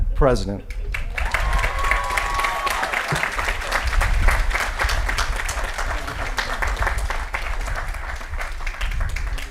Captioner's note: applause & Cheering